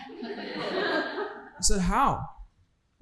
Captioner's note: audience laughing